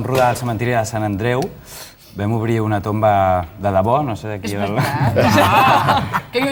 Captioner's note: laughs